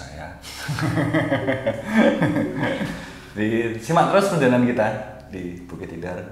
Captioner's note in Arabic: يضحك